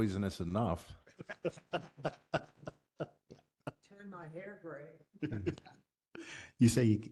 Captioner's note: laugh